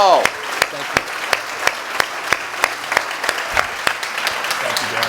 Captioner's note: audience applauds